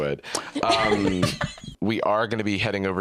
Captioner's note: laughs